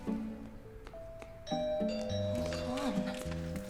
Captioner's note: ringing continues